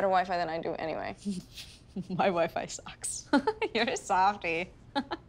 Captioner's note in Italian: Ridacchian